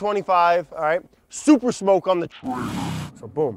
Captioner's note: distorted voice growling